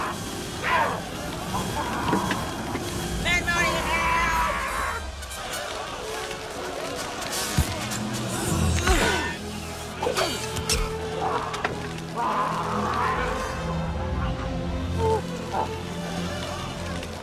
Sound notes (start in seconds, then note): 8.2 grunting